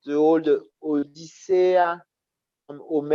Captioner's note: non-english speech